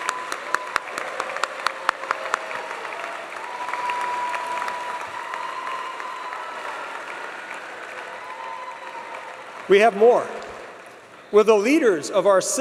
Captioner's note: applause